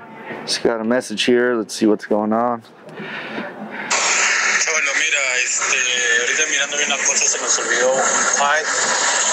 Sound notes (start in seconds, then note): 4.7 worker speaking Spanish